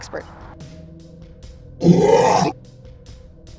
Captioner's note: growl